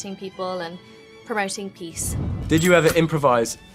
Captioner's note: air whooshing